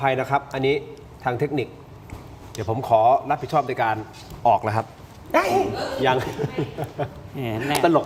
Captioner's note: laughs